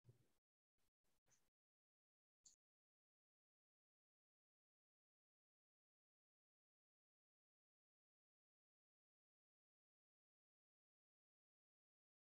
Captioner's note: silence